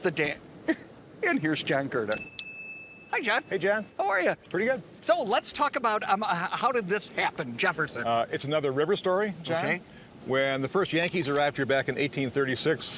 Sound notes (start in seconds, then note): 0.1 laughing; 2.1 bell ringing